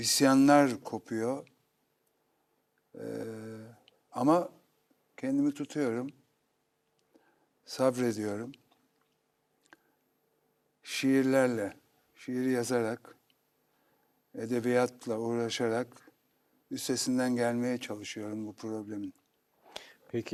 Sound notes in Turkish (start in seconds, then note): none